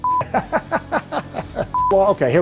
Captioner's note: laughing